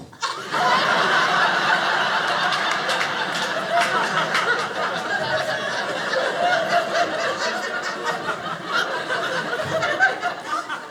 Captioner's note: audience laughing